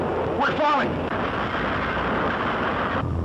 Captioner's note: clanking